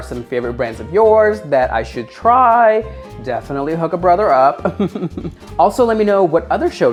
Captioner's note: laughing